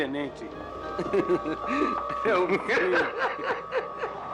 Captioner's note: laughs